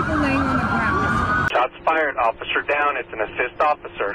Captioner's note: sirens and gunfire